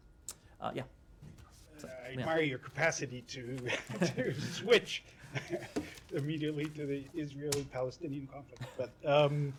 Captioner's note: laughter